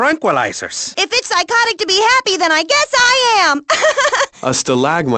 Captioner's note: laughs